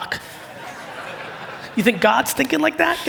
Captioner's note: audience laugh